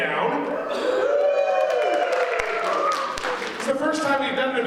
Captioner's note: audience cheers